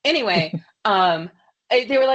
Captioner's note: laughs